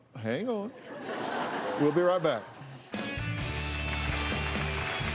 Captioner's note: laughter